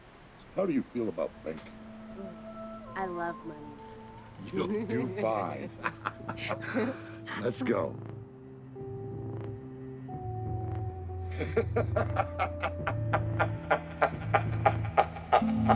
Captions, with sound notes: How do you feel about banking? - I love money. - You'll do fine. Let's go. (laughing)